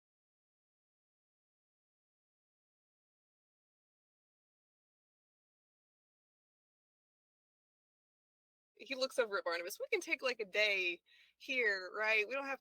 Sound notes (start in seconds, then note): none